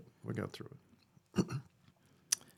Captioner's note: clears Throat